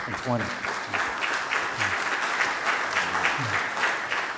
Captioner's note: audience applause